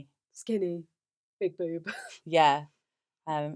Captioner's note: laughs